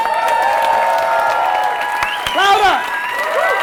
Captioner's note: applause